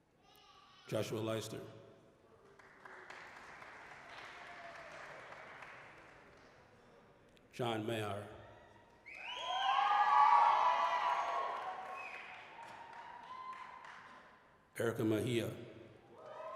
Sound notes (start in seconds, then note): 2.3 applause; 9.0 applause, cheering